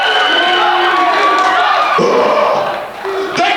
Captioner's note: crowd